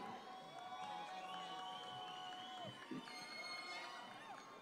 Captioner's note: audience cheering